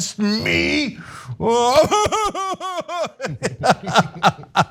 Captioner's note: laugh